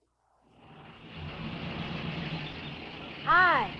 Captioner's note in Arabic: هدير محرك السيارة